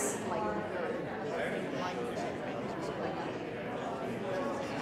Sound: audience talking

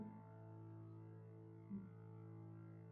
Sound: humming

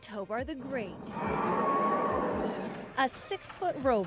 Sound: roaring

